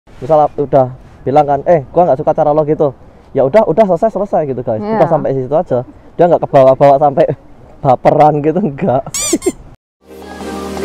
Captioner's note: chuckles